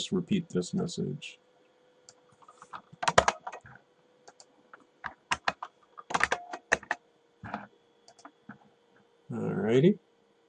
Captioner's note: typing